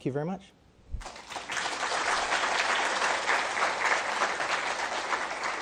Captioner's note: crowd applauds